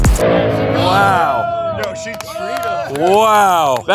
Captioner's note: upbeat dubstep music; all cheering and applauding